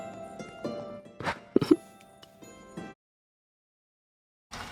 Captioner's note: laughter